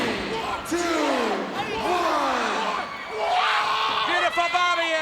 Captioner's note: screams